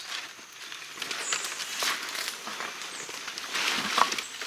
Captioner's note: leaves crunching